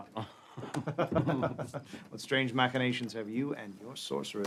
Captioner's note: laughs